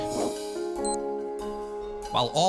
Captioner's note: beeps